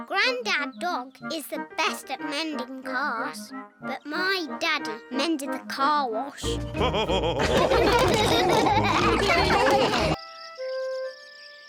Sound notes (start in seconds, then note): 6.5 all laughing